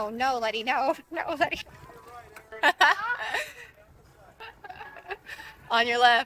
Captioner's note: laughs